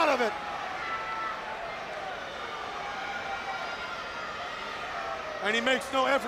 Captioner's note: crowd chatter